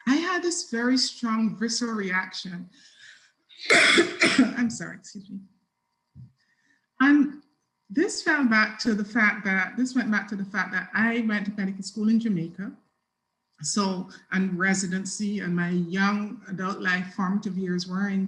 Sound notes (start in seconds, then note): 3.6 coughs